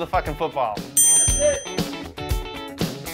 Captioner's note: upbeat music; electronic beep